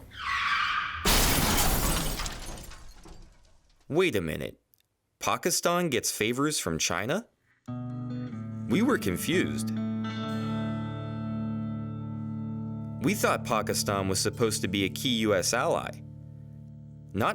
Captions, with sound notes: (tires screech) (resounding crash) Wait a minute, Pakistan gets favors from China? We were confused. We thought Pakistan was supposed to be a key US ally,